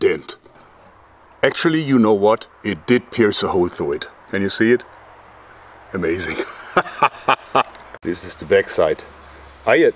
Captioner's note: laughs